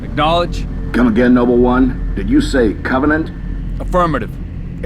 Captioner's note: radio